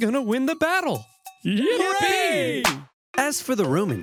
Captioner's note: Carthaginian soldiers cheer